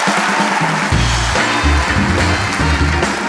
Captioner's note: applause, cheers